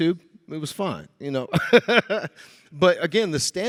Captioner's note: laughing